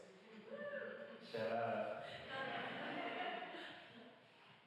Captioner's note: laughter and banter